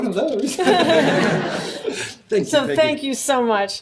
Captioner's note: audience laughs